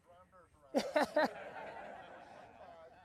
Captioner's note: laughing